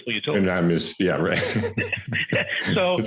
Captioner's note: both laugh